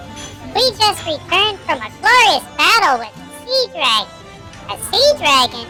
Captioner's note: whispering to Ollie; laughing